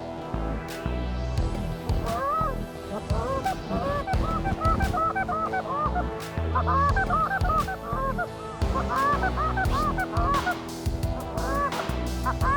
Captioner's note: goose calls